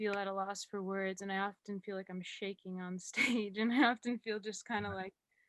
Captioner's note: laughs